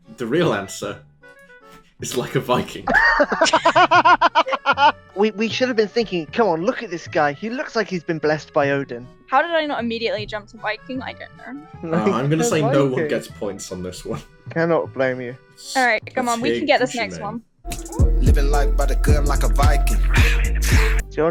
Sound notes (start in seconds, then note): 2.6 laughter